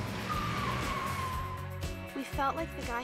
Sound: tires screeching

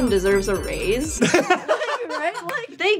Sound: laughter

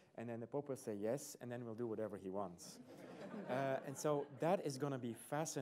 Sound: laughter

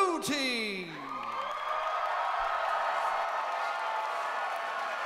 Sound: crowd applauses

